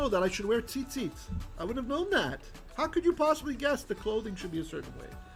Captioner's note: Hebrew